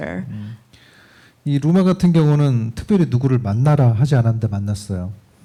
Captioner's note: speaking korean